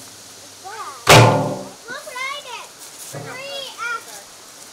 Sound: wood planks clanking; background chatter

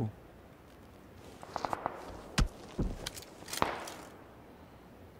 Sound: shooting

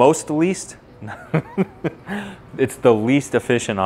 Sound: laughs

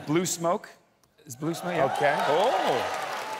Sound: cheering

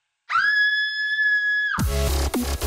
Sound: screams

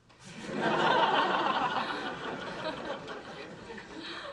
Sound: audience laughing

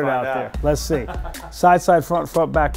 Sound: laughs

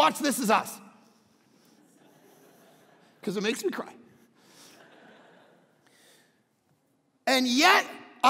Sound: crowd laughing

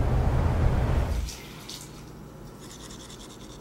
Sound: water Gurgling

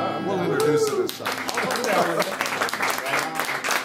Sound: cheering and clapping

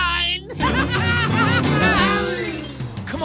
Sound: laughing

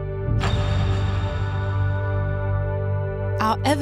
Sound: metal clink echoes

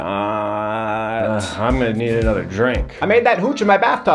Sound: sighs

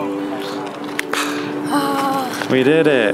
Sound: hands clap

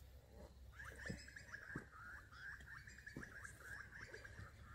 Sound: birds chirping

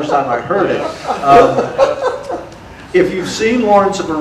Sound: audience laughter

